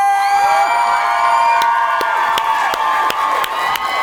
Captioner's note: audience cheers